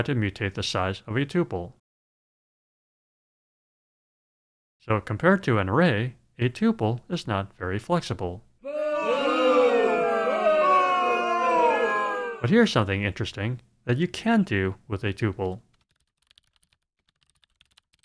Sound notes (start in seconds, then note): 8.6 crowd booing